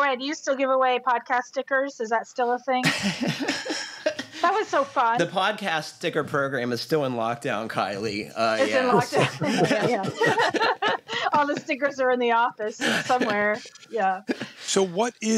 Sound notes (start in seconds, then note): 2.8 laughs; 8.6 laughter